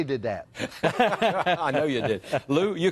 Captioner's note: laughter